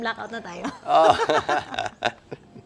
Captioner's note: laughs